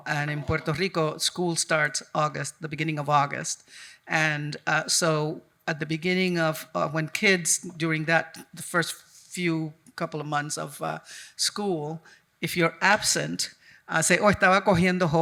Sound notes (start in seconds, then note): 13.6 speaking in Spanish